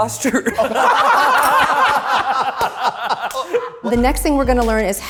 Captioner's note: all laughing